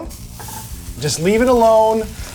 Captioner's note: meat sizzling